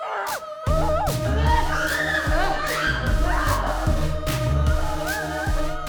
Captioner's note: upbeat music; both screaming; upbeat music